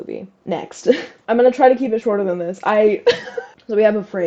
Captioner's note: laugh; laugh